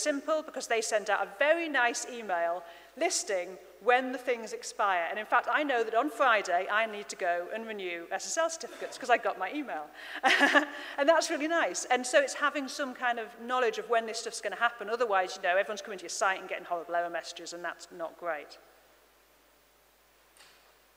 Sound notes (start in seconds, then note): 10.2 laughing